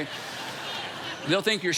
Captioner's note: congregation laughing